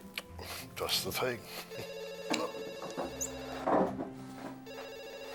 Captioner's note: chuckles; phone ringing